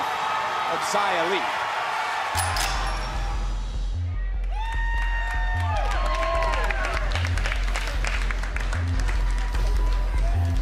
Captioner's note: applause